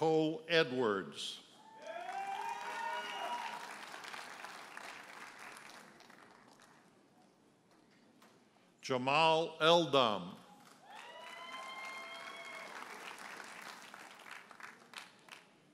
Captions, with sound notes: Taylor Nicole Edwards. (audience hollers and applauds) Jamal Eldam. (audience cheers and applauds)